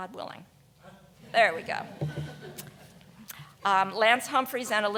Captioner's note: audience chuckling